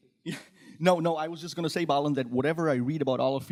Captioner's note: laughs